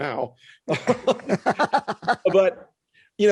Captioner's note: both laughing